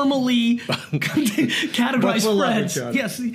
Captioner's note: laughing